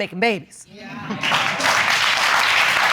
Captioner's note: audience applauding